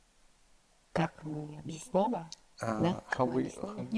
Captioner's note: Natasha speaks in foreign language